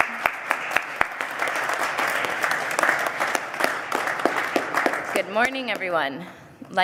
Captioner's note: applause